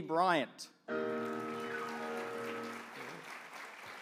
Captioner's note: applause